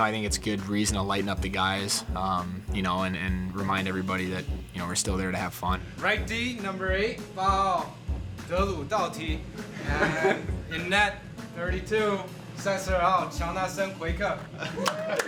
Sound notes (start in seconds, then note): 8.9 speaking Chinese; 12.5 speaking Chinese; 14.7 applause